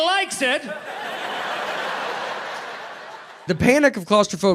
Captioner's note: crowd laughs